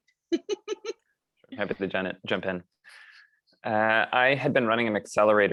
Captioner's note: laugh